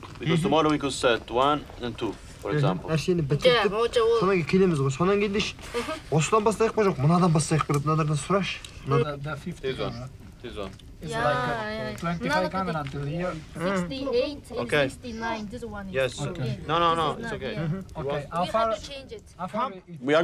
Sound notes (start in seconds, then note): 4.2 man speaks in Mongolian